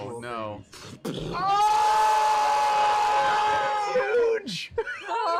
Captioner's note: yelling